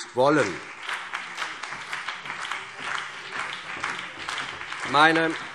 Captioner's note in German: Beifall CDU und BÜNDNIS 90/DIE GRÜNEN